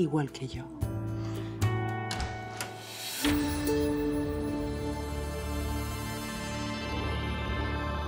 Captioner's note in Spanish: sonido al abrir la puerta